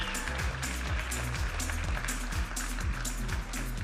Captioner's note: audience applauding and cheering; vibrant music